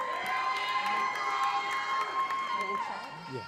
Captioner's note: audience applauding; audience cheering